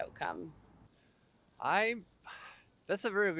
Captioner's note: sigh